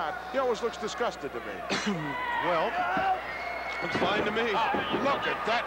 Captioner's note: cough